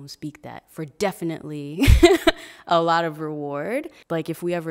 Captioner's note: laughing